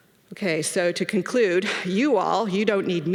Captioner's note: none